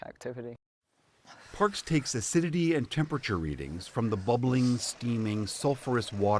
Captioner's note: voice-over